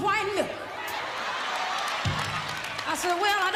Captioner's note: audience laughing